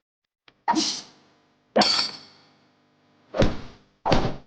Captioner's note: weapons whipping